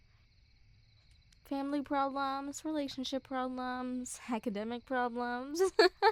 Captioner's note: laugh